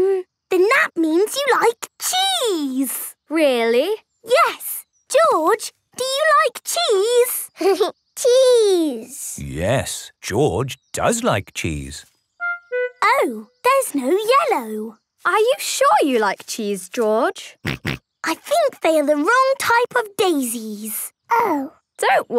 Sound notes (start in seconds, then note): 7.6 giggling; 17.6 snorting